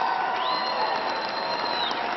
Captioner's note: applause